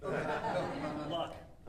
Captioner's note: audience laughing